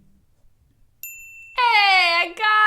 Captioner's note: bell dings